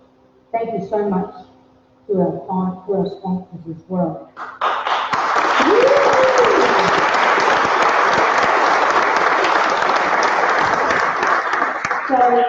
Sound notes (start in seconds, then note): 4.4 applause